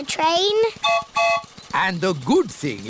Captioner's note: train whistle blows